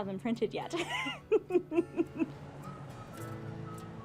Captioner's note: hearty laugh